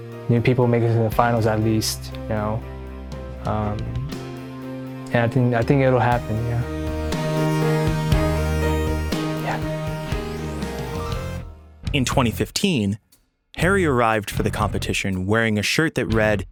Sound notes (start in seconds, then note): 9.3 whispers